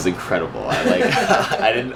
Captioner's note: laughter